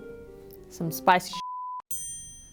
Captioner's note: beep